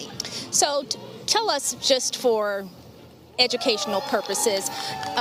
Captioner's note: crowd cheering nearby